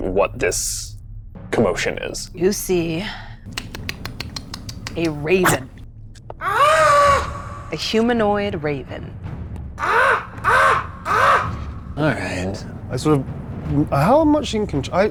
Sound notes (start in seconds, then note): 9.7 imitates cawing